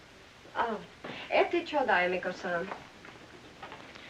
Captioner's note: speaking in Japanese